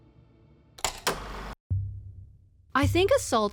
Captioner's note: film reel clacking